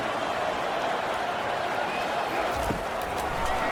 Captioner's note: crowd Noises